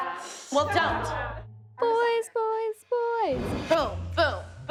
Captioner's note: singsong